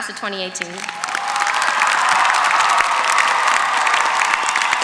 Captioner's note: applause